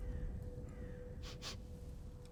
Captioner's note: sniff